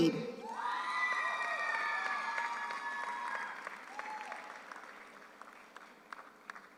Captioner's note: audience cheers; audience applauds